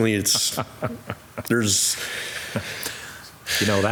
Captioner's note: chuckling